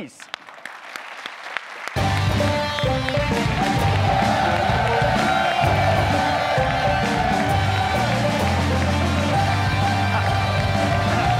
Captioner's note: music, applause; audience chanting: AMD! AMD! AMD! AMD! AMD!